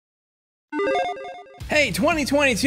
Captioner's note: logo beeping